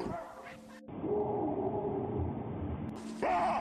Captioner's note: loud barking; distant barking; loud barking